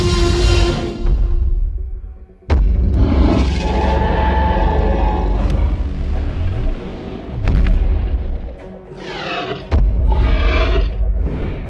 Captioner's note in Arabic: زئير تي ريكس والدوس